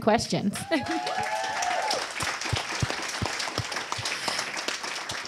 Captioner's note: audience cheers and applause